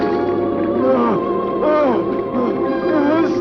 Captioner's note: groaning